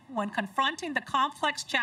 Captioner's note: none